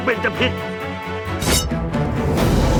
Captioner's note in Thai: เสียงลูกดอก